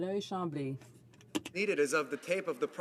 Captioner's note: some Applause